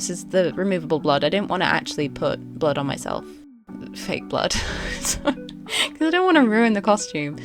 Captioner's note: laughs